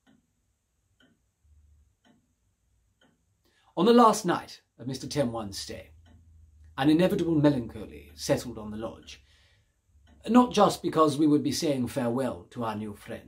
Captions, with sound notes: Neither Mr. Cyrus nor I could allow our minds to wander into that impending abyss. (clock ticking)